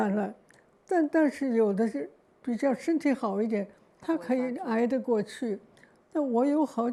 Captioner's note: Mandarin; Mandarin